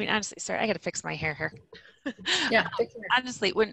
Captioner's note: laughing